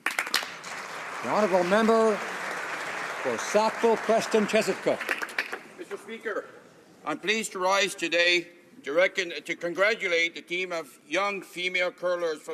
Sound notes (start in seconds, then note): 3.9 some Applause